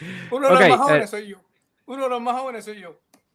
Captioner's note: laughs